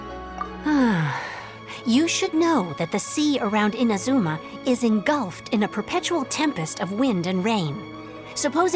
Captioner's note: sigh